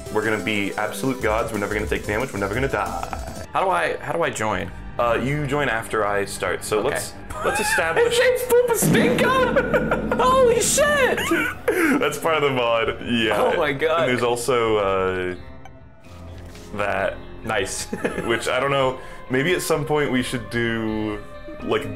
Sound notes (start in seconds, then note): 7.8 wheezing; 10.9 laughing; 17.8 laughing